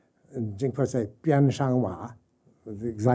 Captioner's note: speaking jingpo